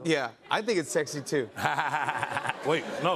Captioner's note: laughter